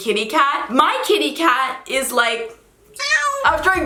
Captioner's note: cat meows